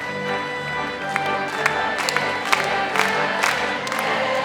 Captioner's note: crowd